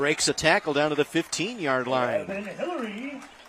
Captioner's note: applause